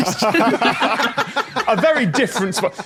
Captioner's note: group laughs heartily